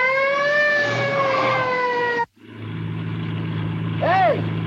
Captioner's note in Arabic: اصوات صرير الاطارات